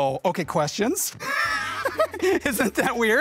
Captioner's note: laughing